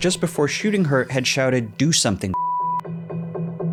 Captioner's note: beep